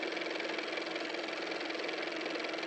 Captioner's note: car motor